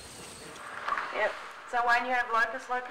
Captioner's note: woman on telephone